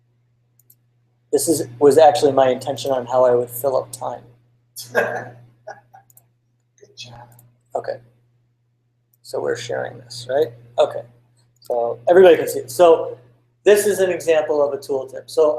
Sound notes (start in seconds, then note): 4.8 laugh